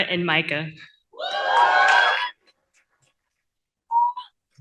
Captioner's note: cheering